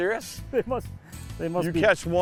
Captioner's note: laughs